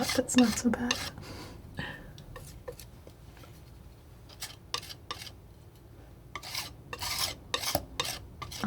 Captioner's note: scratching